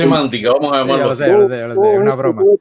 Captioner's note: laughs